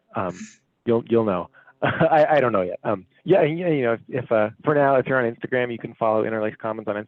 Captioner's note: chuckles